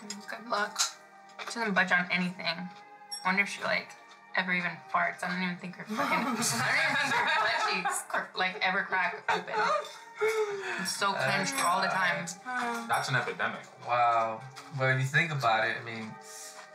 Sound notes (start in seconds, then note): 5.9 laughter; 12.0 Val mumbles